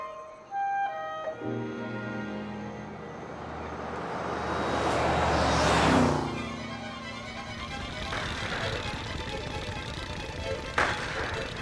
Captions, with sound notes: (Sputtering) (Engine backfiring) Dad, can't you go any faster?